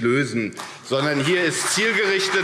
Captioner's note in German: Beifall CDU und BÜNDNIS 90/DIE GRÜNEN